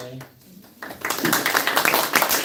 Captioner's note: applause